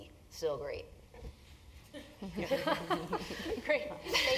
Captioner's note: laugh